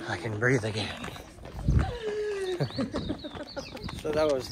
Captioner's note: gasps and laughs